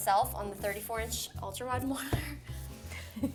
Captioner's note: laughs